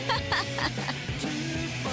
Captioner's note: laughs nastily